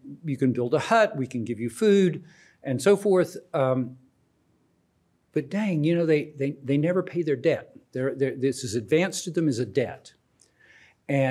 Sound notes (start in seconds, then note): none